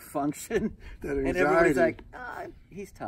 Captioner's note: laughs